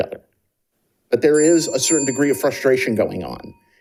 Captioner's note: bell ringing